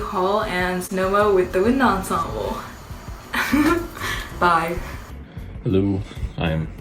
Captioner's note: laughs